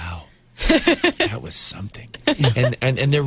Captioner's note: interviewer laughs